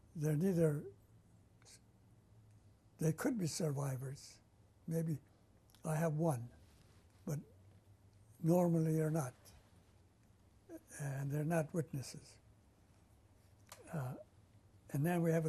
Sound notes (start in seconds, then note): 12.1 pauses for 3 seconds